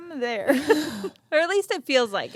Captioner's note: both laugh